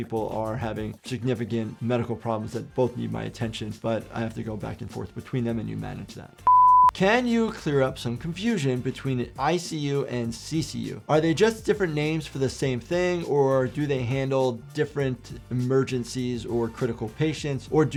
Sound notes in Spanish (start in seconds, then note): 6.4 pitido en pantalla